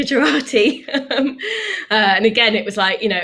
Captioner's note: laughs